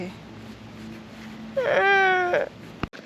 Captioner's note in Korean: 울먹울먹